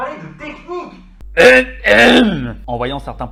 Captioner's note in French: Tousse très très très fort